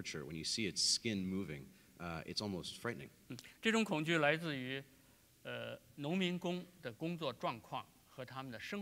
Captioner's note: speaking in Chinese